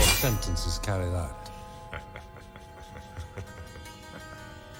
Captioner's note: Harry laughing